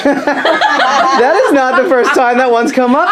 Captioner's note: laughs